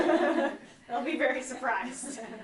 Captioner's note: laughter